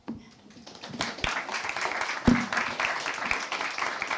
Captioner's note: audience applauds